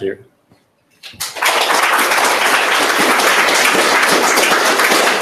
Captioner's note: applause